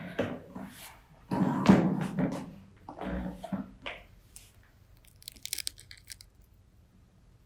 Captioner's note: rustling Sound